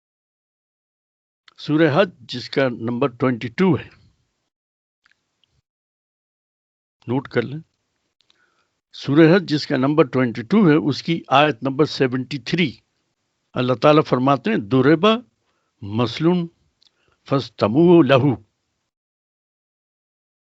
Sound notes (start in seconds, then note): 6.4 recites in Arabic